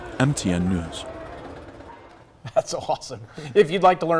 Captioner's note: laughter